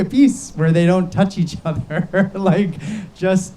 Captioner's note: laughs